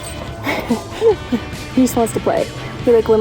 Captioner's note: laughs